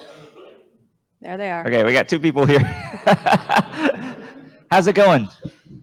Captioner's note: laughs